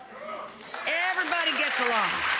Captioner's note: audience cheering